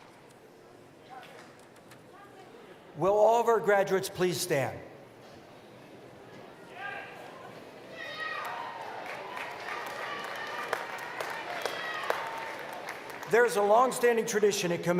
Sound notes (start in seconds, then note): 8.4 applause